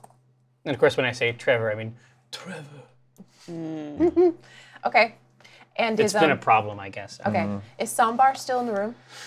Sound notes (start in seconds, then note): 2.1 slow vampire accent